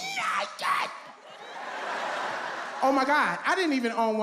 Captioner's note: audience laughs